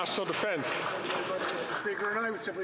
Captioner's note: some Applause